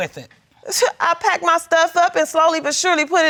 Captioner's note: scoffs